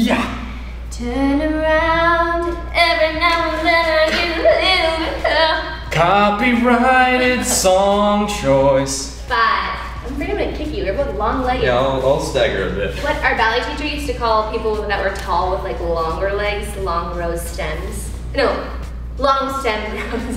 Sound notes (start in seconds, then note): 2.9 sings faintly; 9.7 speaks faintly